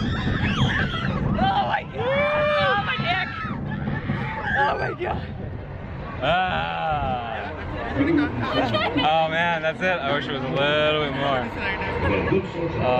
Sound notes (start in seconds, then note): 6.4 yelling